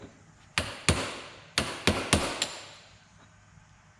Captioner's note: hammer pounding